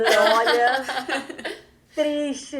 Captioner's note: guffaws